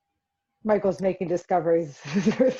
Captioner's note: laughs